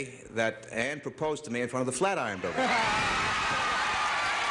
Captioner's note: cheers and applause